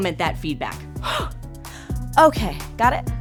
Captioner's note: quickly inhales